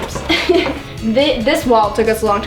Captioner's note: laughs